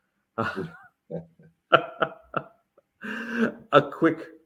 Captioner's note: laughing